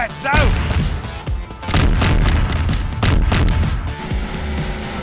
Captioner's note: background explosion